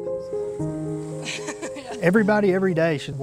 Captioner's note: laughs